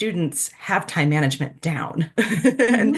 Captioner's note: laughter